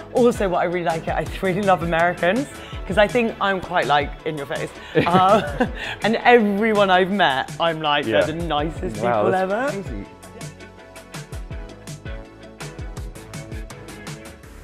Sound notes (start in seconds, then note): 4.9 both chuckle; 10.9 bright upbeat music